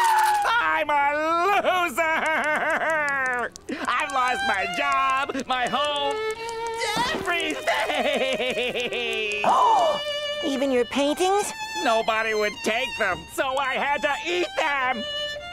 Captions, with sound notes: I'm a loser. [crying] I've lost my job, my home, everything. [gasping] Even your paintings? Nobody would take them, so I had to eat them.